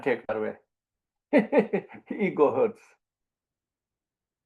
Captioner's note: laughs